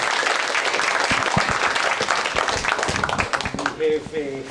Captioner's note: applause